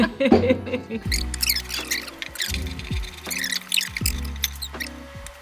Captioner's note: laughing; fast forward squeaking